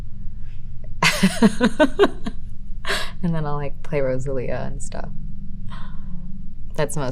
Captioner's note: laughing